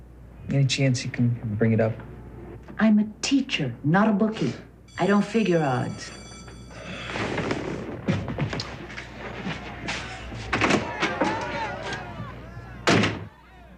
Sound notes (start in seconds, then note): 6.4 class bell rings in background; 12.8 door slams